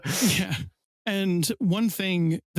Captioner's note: laughs